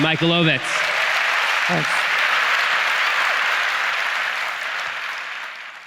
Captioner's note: audience applauds